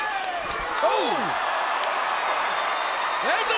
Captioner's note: hand slaps; crowd cheering